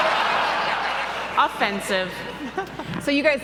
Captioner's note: laughing